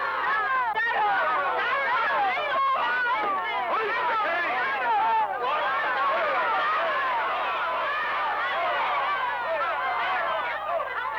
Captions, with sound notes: - Hoist the cage! (crowd shouting)